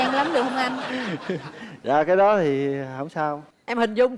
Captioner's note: the man laughing